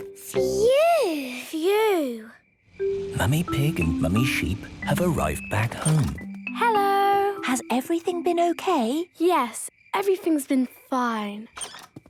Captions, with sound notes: - Phew! - Phew! - (whispering) Mummy Pig and Mummy Sheep have arrived back home. - Hello! - Has everything been okay? - Yes, everything's been fine.